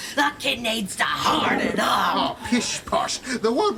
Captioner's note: The Lettuce Monster growls